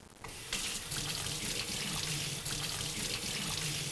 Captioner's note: sound or faucet running